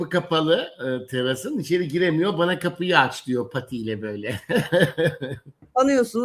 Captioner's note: kahkaha